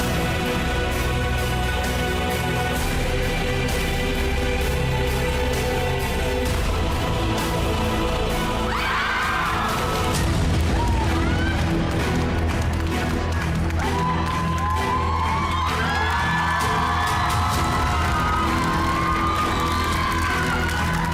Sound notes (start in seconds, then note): 0.1 suspenseful music continues; 8.6 crowd screams; 14.0 crowd cheering, applauding